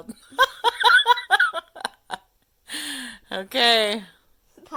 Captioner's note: laughs